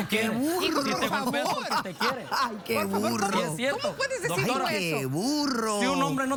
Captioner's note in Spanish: Risas